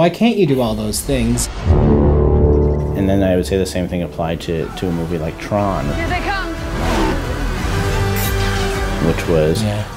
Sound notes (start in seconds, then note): 5.6 cars speeding, other movie effects play